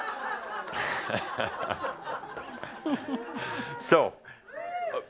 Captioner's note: more laughter